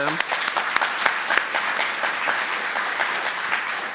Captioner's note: applause